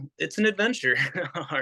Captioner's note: laugh